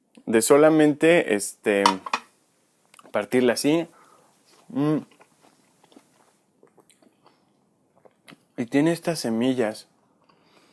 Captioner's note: chomp